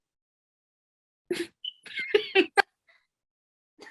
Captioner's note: laughing